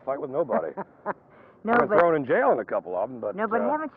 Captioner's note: laughs